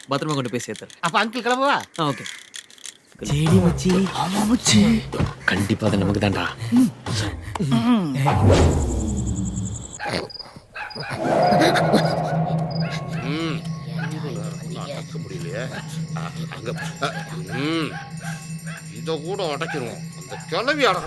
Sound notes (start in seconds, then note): 10.6 muttering under his breath